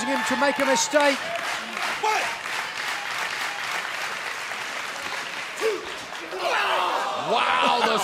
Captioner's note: crowd cheering